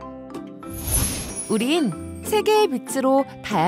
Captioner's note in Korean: 반짝이는 효과음